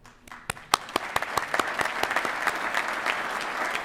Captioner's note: applause